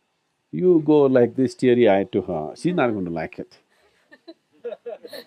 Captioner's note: few laughs